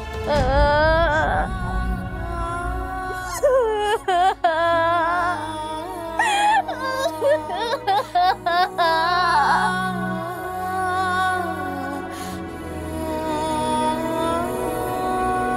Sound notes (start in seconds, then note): 0.1 morose music playing; 3.0 crying; 12.5 morose music playing